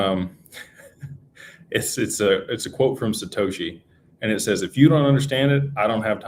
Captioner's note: laughter